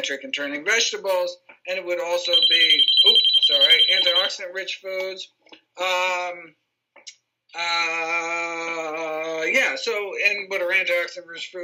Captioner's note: phone rings